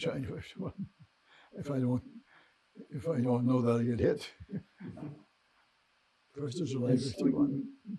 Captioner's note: laughing